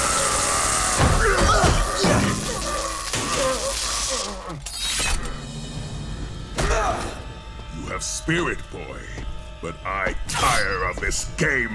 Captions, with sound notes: [grunting] [groaning] [grunting] You have spirit, boy. But I tire of this game.